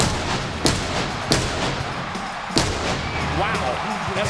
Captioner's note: pyrotechnics bursting